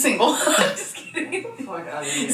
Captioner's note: laughs